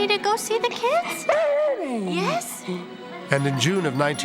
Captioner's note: Dani howling